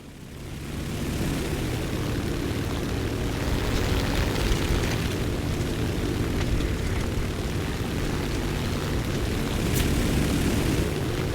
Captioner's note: aircraft Engines ,Gunfire, Flying Sounds